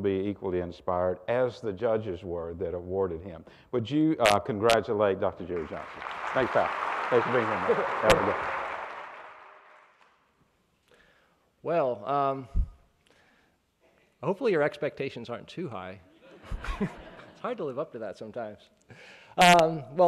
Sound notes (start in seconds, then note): 5.4 applauding; 8.1 microphone buzzes; 16.2 laughing